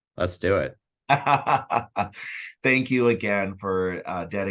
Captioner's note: laughs